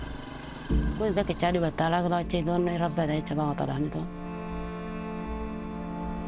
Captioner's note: speaking in foreign language